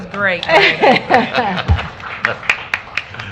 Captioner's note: applause